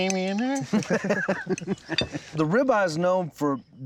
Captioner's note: laughing